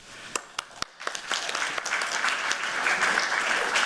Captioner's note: applause